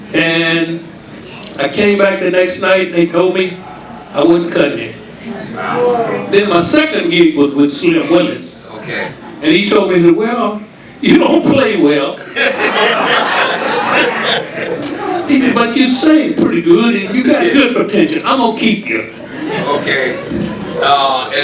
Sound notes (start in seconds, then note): 12.2 audience laughing; 19.2 audience laughing